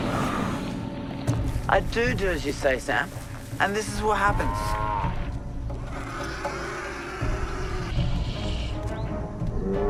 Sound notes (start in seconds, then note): 0.0 hissing; 7.9 menacing animal noises